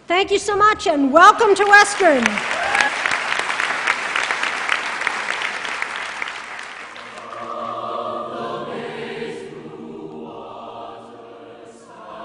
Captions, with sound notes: Thank you so much. And welcome to Western! [APPLAUSE] [CHOIR SINGING]